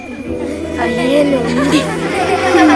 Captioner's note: indistinct chatter